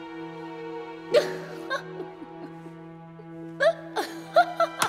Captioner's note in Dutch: Elisabeth lacht